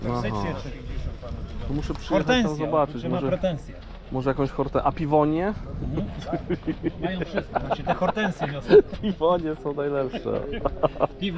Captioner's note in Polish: śmiech